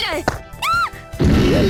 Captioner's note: gasp; panicked cry